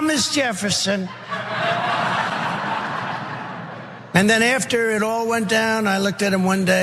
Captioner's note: laugh